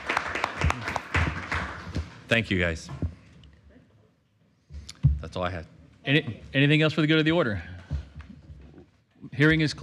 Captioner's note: applause